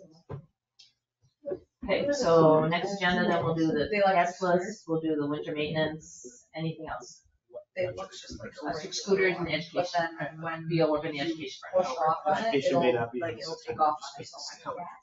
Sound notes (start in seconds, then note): 7.8 speaks distantly